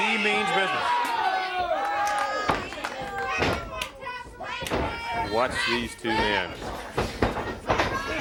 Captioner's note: crowd chatter